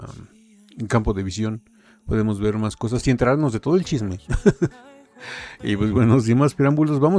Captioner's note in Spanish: risas